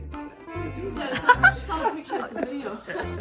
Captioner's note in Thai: หัวเราะ